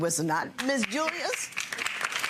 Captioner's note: audience applauding